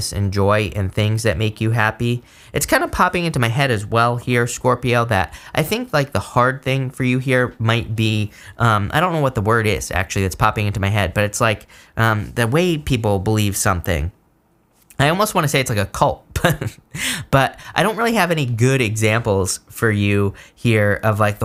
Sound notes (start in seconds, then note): 16.3 chuckles